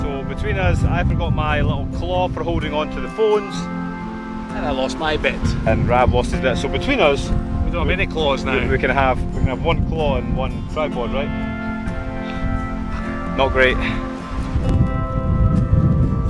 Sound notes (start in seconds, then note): 12.9 quietly; 13.7 sighs